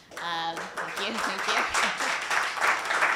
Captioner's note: applause